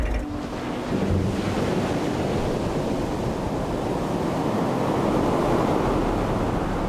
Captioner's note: gentle music; waves roaring